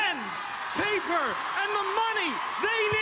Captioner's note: cheering